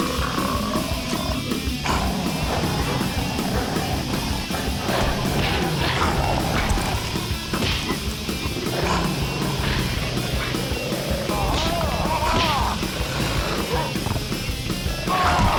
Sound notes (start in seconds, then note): 0.1 upbeat music; 3.6 kicks thudding; 4.5 wolf roars